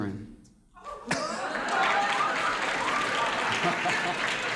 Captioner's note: applauding